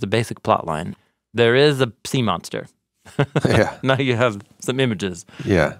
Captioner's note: laughs